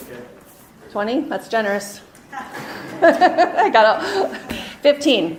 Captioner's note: laughing